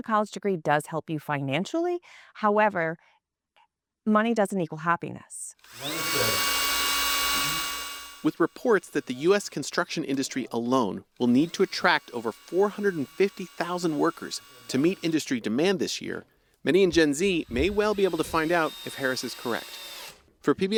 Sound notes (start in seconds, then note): 8.8 voice-over